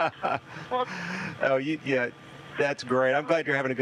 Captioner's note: laughing